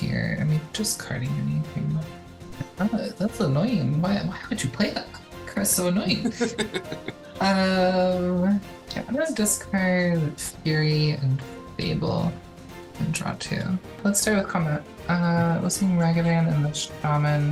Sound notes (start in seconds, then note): 6.1 laughing